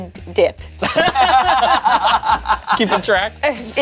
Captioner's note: group laughs